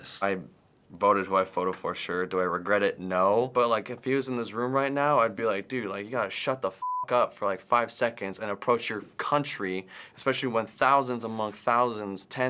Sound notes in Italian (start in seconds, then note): 6.8 bip